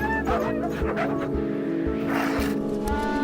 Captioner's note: dogs panting; dogs barking; shovel scraping